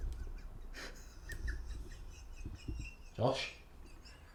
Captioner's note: pathetic whimpering